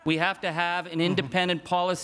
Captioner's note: crowd chuckles